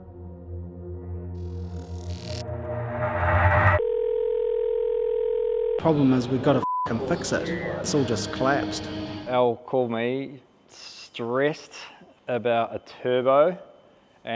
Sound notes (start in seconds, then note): 3.8 phone buzzing; 6.4 beep